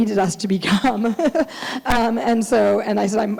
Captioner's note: laughing